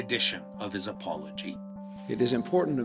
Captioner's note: soundbite of archived recording